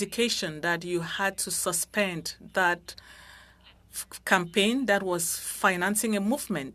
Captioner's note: speaking French